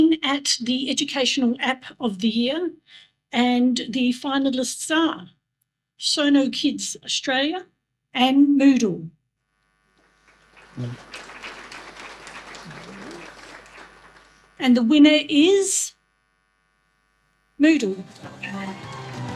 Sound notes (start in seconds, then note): 10.0 audience applause; 18.0 audience applause and celebratory music